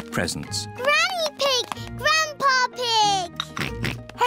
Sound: oinks

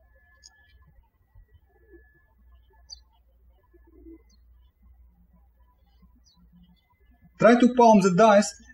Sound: birds chirping

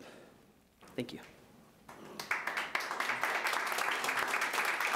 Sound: audience applauding

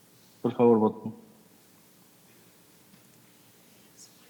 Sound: translator speaking in Spanish

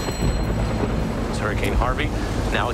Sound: thunder rumbling

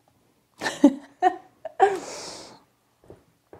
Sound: laughs

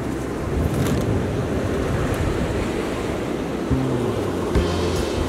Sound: waves crashing

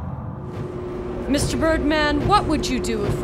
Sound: fan spins

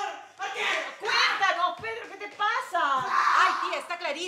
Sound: screams

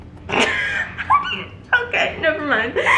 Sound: laughs

